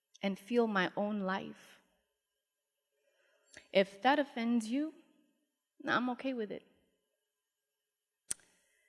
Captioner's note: none